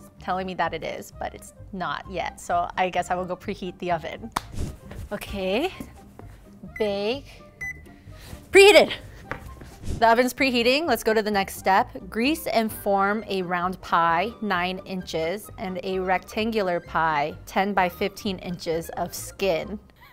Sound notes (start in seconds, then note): 4.3 clapping; 6.6 button pinging